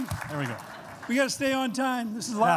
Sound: applause

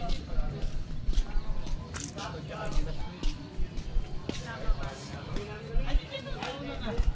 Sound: slippers scratching the floor

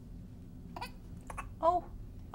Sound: baby coughing

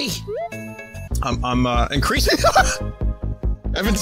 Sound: normal voice; laughs

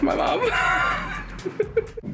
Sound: laughing

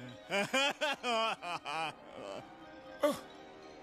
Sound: laughs

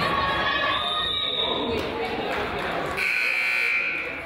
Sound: whistle blows; crowd applauds; buzzer honks

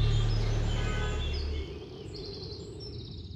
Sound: birds chirping

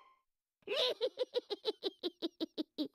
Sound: cackling

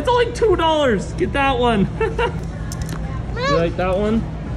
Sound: laughs

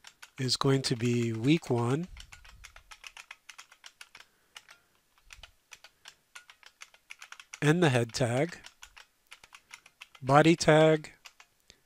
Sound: typing

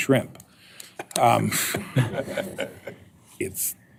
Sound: laughter

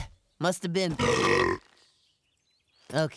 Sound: belching

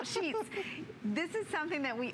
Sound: laughter

